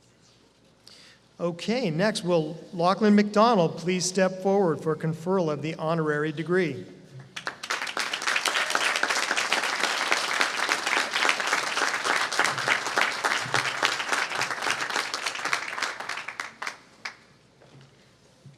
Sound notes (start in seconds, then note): 8.2 applause